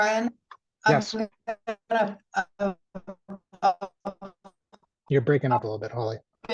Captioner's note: crackling drowns out